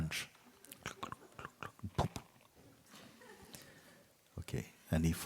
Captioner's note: slow horse riding sounds